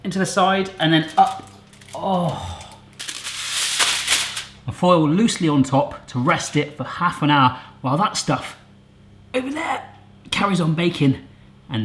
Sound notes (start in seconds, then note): 3.1 metallic crunching